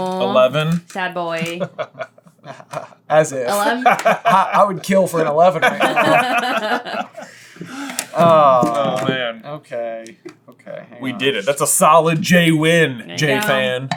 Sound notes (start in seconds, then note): 6.9 laughter